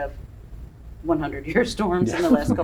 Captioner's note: laugh